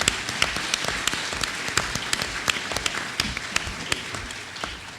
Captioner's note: applause